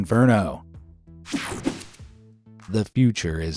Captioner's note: graphics whooshing